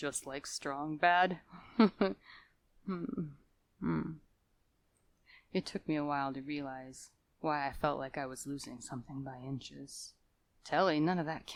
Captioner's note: nostalgic Chuckles